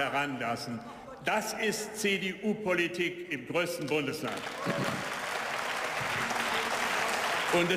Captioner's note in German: Beifall